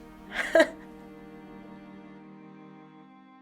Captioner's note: laughs